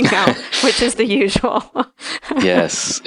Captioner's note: laughs